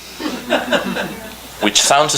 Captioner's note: laughing